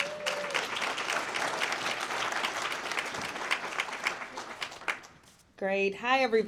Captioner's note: audience Applauds